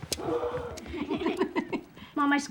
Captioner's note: all laughing